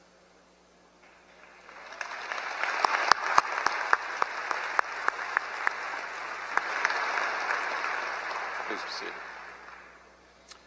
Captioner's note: applause